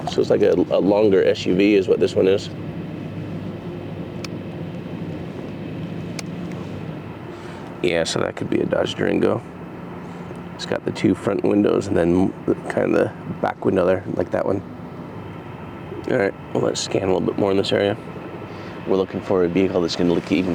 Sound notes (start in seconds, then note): none